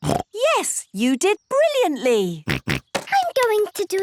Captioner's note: snorts